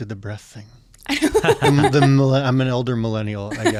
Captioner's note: laughing